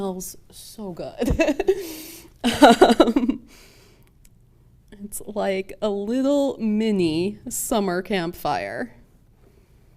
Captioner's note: laughs